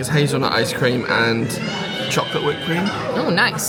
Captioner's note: baby crying